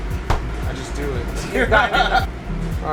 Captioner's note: chuckles